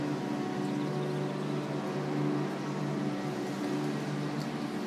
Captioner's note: chirping continues